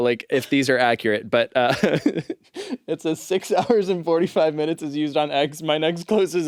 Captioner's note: laughs